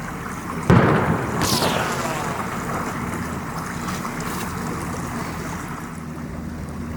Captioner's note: gunshot cracking; bullet wheezing